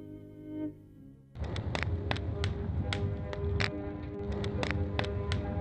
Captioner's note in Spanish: fuego crepitante